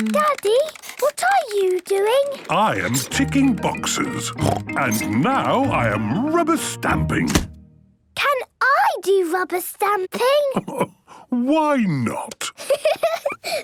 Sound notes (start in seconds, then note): 4.4 snorting; 10.5 chuckling; 12.6 giggling